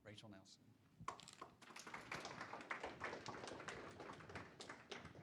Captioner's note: clapping loudly